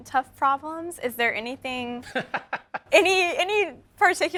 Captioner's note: laughs